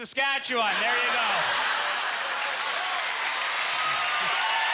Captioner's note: cheers and applause